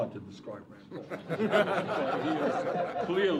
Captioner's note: laughing